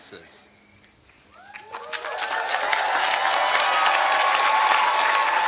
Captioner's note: applause